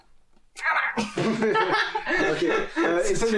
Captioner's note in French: rires